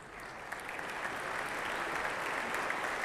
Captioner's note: applause